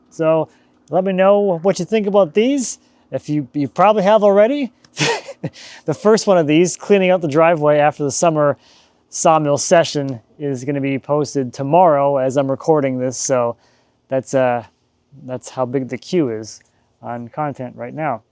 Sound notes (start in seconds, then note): 5.0 laughs